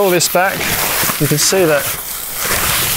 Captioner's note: tent crumpling